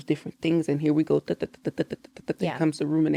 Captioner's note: emulates ticking sound